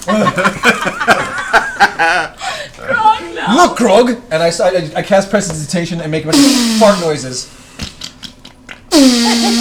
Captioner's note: fart noises